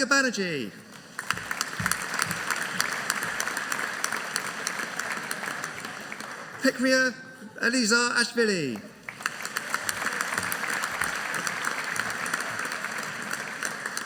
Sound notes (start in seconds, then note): 0.8 audience applauding; 8.9 audience applauding